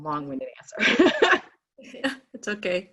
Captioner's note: laughing